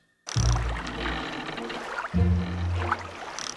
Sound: calm water and boat creaking

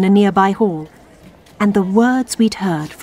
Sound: fades to sounds of crowded but echoing hall

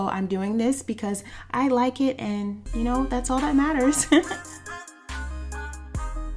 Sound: laughs

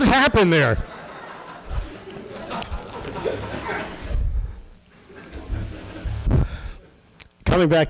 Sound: laughter

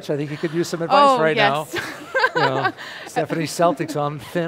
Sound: laughs

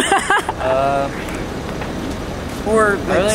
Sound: laughs

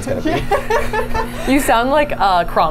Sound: laughs

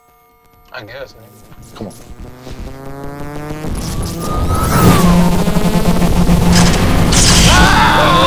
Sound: voltage - electric sounds; screaming

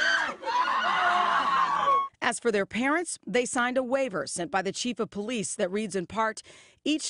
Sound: screaming

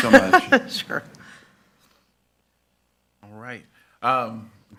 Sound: laughs

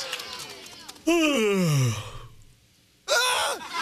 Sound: yawns; yells

